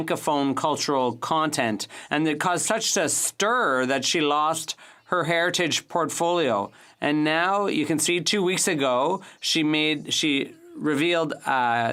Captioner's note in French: voix de l'interprète